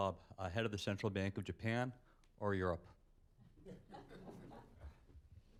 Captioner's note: laughter